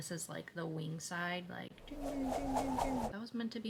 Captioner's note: wing flapping noises